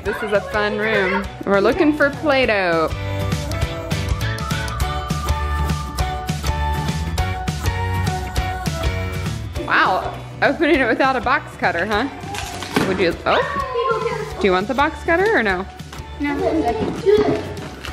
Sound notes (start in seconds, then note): 2.7 upbeat music; 12.3 box opening